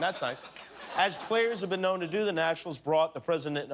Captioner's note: laughter